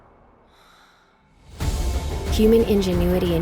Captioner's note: loud breath